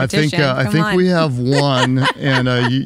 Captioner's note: laughs